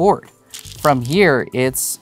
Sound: stones rattling

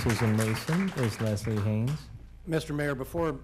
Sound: cheers and applause

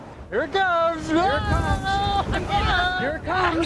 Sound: sounds excited; laughingly

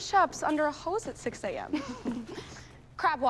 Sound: Queens chuckle

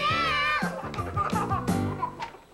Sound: kids giggling

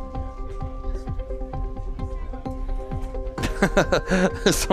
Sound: laughing

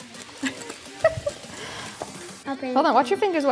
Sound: laughs

